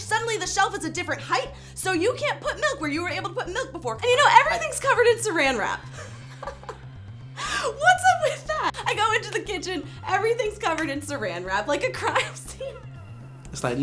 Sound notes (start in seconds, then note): 5.9 laughing